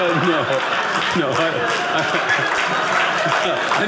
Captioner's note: audience laughing